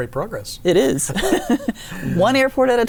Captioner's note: laughing